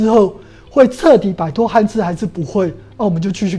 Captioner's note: chinese words